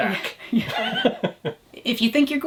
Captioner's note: chuckles